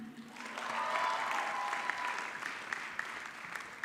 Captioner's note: audience clapping